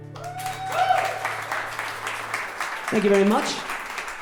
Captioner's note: audience cheering